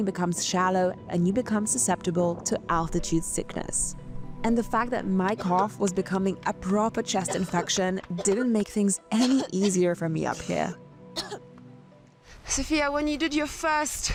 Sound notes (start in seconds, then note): 11.1 coughing